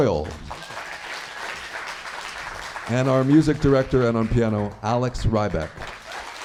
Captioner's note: applause